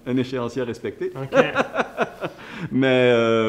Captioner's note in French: rires